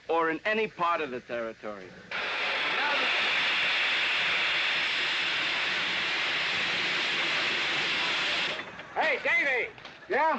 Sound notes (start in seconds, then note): 2.0 steam hissing